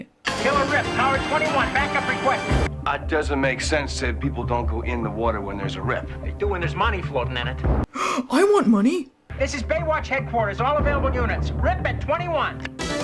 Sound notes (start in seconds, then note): 7.9 gasp